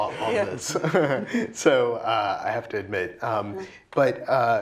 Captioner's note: laugh